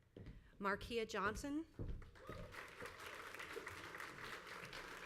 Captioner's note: crowd applauds